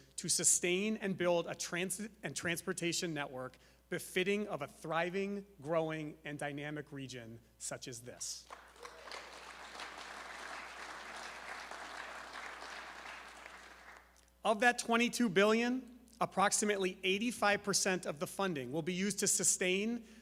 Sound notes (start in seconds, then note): 8.4 applause